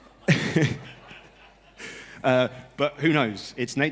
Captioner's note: laughter